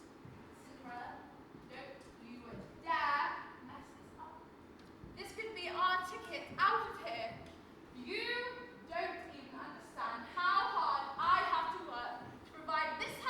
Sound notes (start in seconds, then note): none